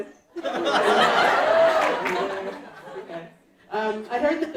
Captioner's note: audience laughing